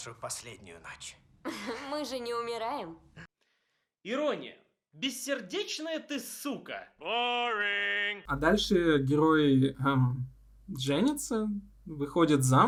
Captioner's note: giggling